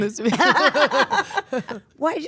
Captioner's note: Stephanie and Paige laughing